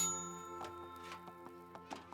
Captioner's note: bell dings